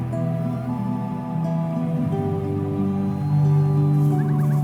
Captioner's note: bird calling